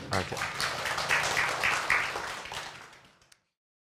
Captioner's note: applause